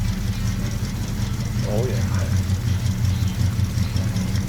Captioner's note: engine roars